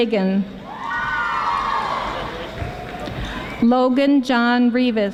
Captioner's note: audience applauding